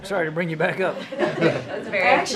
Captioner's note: laughter